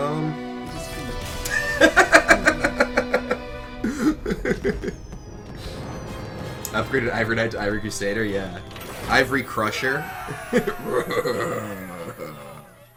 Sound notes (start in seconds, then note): 1.4 maniacal laughter; 10.1 roaring noises